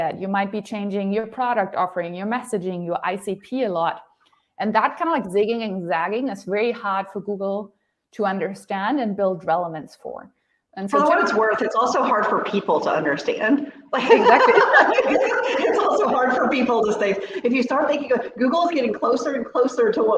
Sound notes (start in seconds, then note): 13.9 laughs